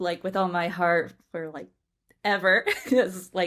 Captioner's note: laughs